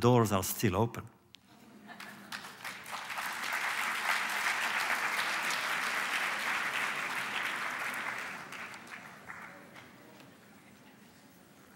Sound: applause

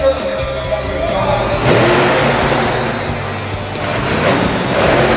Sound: truck engine revs

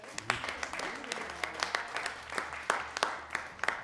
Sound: audience applauding

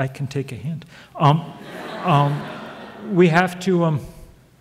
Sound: audience laughs

